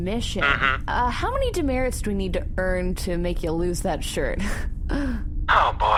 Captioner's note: laughs suggestively